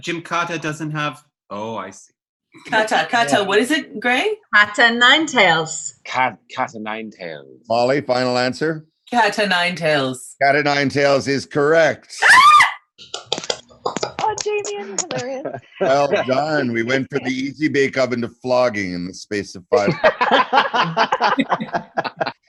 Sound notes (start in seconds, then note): 12.1 screams; 21.1 laughing